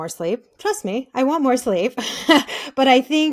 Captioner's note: laughing